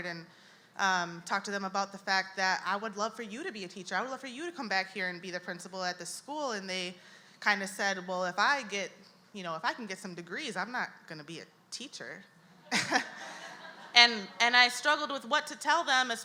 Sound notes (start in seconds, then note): 12.7 audience laughs